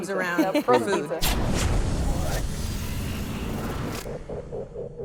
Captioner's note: electronic noises